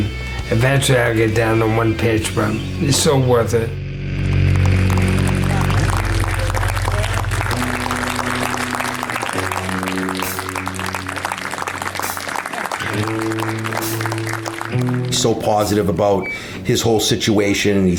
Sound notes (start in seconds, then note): 4.1 applause; 4.5 dramatic music